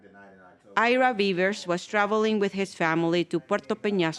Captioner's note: voiceover